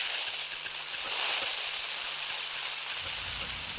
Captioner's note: water spraying